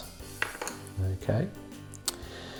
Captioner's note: pencil clattering